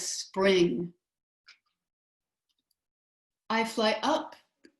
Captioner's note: silence